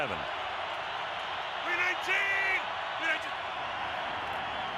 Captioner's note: crowd cheering